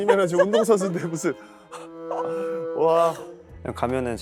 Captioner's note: cracks up laughing